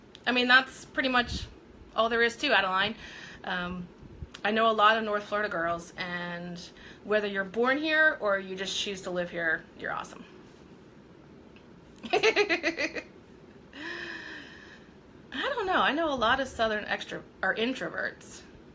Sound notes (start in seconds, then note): 12.0 laughing